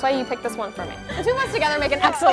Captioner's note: laughs